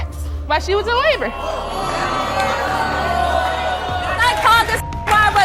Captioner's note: audience boos